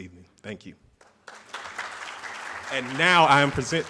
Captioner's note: audience claps